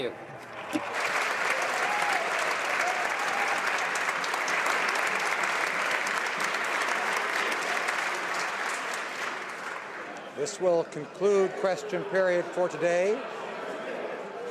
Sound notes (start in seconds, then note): 3.2 some Applause